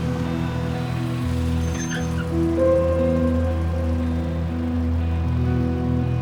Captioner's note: engine rumbles to a stop; tense guitar over ominous electronic music